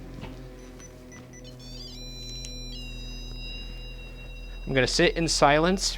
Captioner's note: continuous beeping